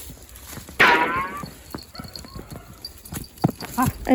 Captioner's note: smelling